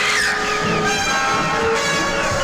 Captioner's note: eerie music; Connie screaming; eerie music